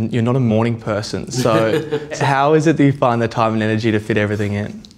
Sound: laughs

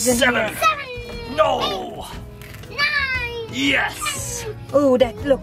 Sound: counting coins

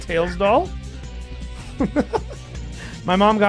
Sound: laughs

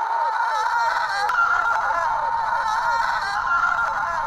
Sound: screams

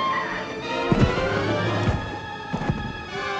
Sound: Matt thudding; suspenseful music

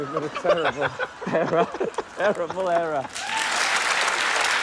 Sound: laughter

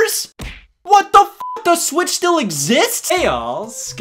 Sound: beep

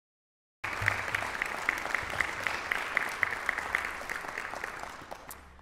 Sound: audience applauds

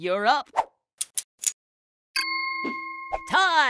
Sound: wheel clicks and chimes

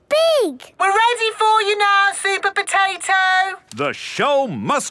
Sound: through megaphone

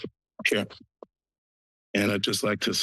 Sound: pause

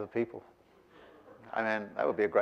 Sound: audience laughing

